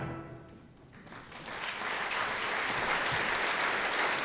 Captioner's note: applause